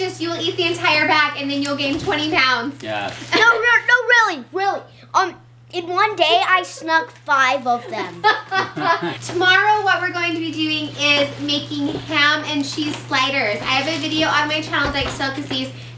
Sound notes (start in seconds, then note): 8.0 laughter